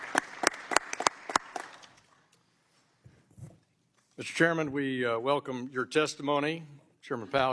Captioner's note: applause